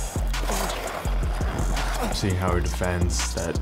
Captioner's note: Oleksiak grunts